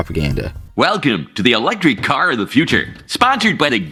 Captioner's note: announcer Voice